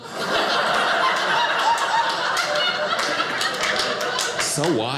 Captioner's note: audience laughing